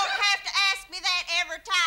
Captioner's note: yelling